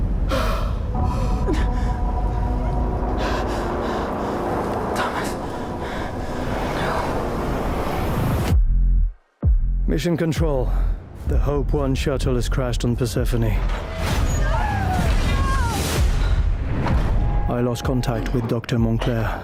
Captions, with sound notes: Thomas! No! Mission Control. The Hope One shuttle has crashed on Persephone. [Screaming] I lost contact with Doctor Montclair.